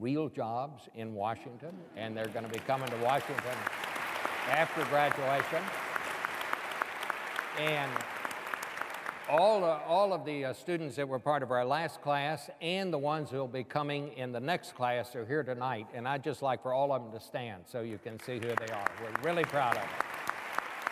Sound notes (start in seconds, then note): 5.4 applause